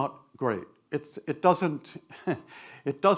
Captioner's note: chuckles